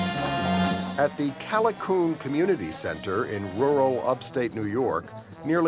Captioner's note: humm